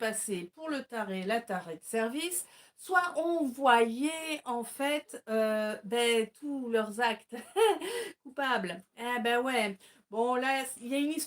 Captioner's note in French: rires